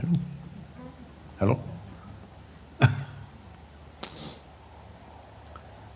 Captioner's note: laughs